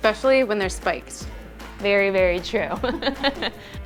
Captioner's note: laughing